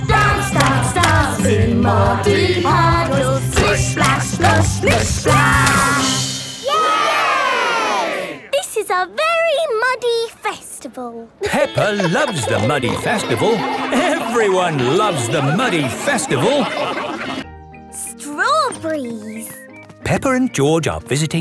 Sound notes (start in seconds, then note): 6.6 all cheering; 11.4 laughing